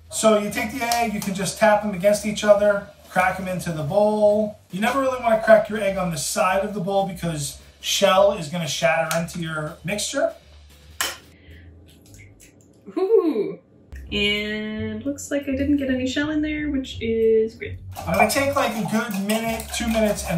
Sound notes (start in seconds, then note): 11.9 eggshell cracking